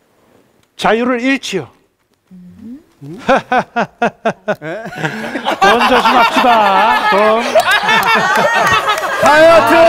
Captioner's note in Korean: 웃음소리